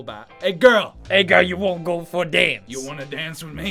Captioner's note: aweful Italian accent